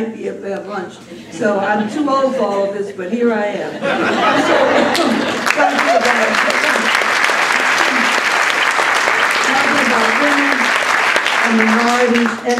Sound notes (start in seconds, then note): 3.6 laughter; 4.9 applause